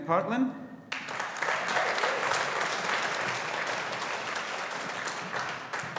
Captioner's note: audience applauding